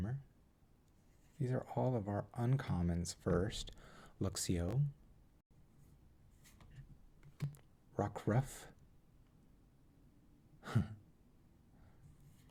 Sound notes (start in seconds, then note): 6.4 chuckles